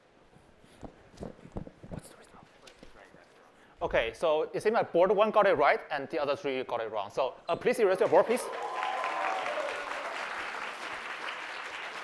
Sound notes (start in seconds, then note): 1.5 whispers; 8.0 applause